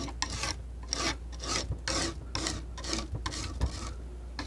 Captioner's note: scratching